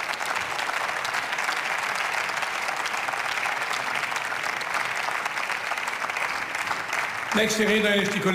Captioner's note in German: Beifall